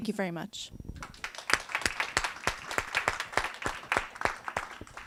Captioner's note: audience applauds